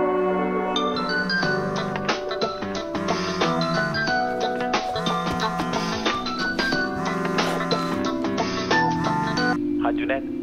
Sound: phone ringing

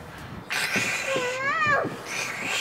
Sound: growling

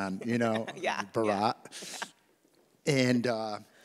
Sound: laughing

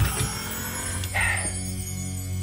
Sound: sighs; suspenseful music playing

